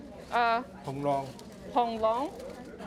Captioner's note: speaks Chinese